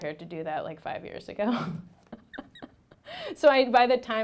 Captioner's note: laughing